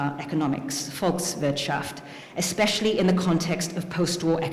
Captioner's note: speaking german